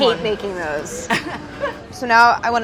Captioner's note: laughs